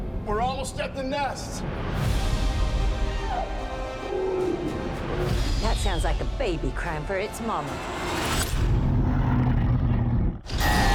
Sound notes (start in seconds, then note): 8.6 roaring